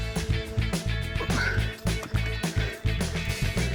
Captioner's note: grunt